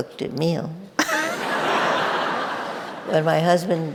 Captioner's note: audience laughing